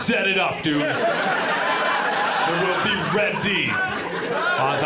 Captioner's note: audience laughs